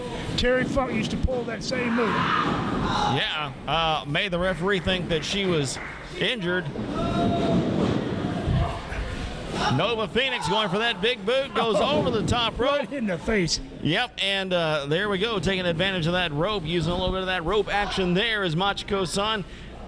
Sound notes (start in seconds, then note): 2.1 girls yelling